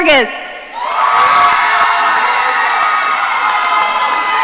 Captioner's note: audience cheering